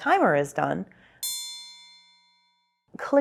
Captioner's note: timer dings